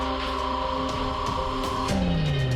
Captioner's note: telegraph machine beeping